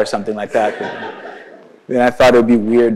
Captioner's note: audience laughs